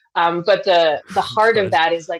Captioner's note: laughs